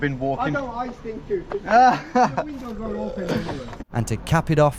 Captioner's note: laughs